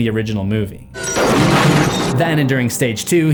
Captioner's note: slam